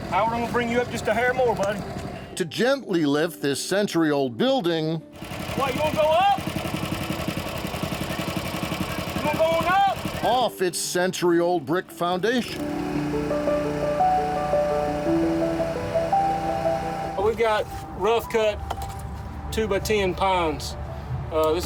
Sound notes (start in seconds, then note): 6.3 compressor rumbling; 12.4 compressor rumbling; 12.4 nostalgic music